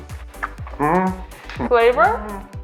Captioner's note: hums; husband hums